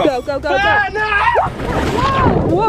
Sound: screaming

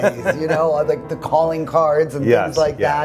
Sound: laughing

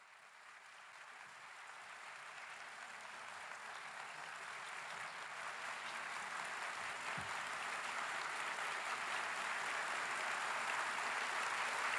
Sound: applause

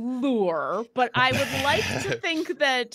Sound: laughing

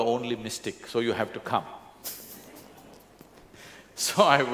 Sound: laughter

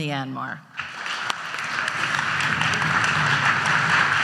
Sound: audience applauds

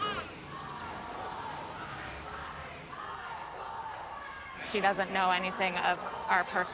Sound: chanting

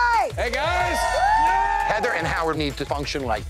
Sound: patrons cheering

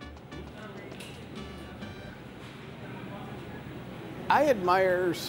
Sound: customers chattering

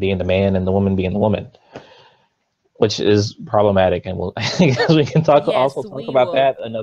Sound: laughs

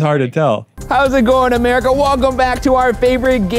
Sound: imitating game show host

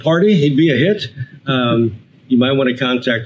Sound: both laugh

